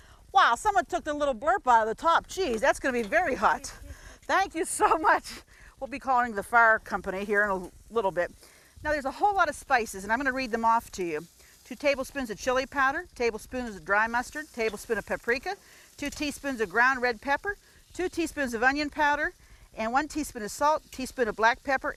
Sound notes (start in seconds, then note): 5.2 laughs